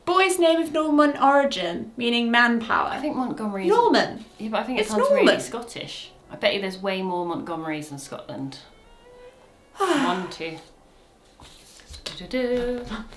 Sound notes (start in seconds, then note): 9.7 sighs